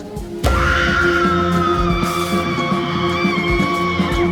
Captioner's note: woman screaming